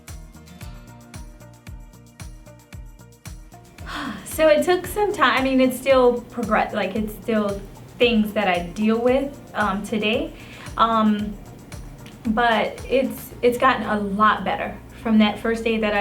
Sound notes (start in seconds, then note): 0.1 gentle upbeat music; 3.8 sighing